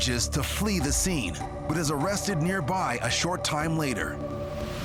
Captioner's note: none